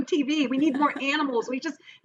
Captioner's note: laughs